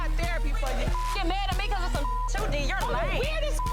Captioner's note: beep